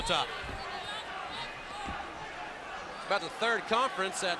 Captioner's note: crowd chatter